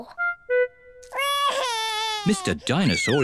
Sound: wails

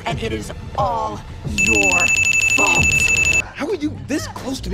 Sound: dings* intensifies

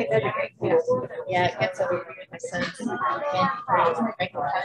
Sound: group chatting

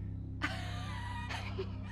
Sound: laughs

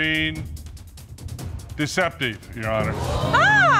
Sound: audience gasps

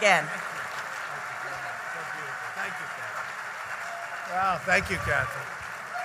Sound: applause

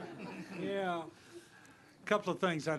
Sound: laughter

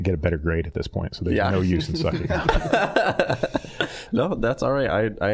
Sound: all laughing

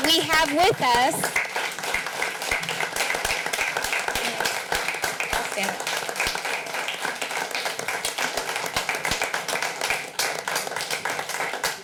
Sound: applause

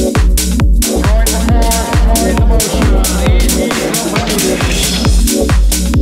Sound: robotspeech

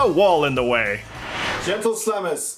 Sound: woosh

